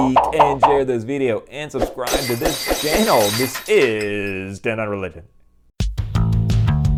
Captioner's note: glass breaking